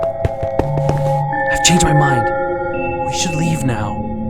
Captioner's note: whispering